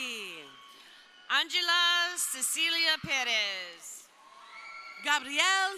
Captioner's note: crowd cheering